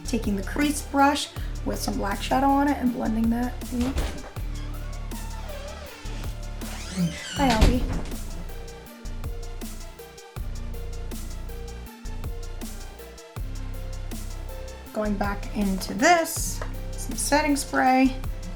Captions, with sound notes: Taking the crease brush, with some black shadow on it, and blending that in. (door creaking) (door closing) Hi Alby. Going back into this, some setting spray,